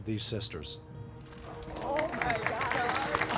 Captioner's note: audience applauds